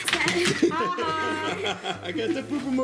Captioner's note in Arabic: ضحك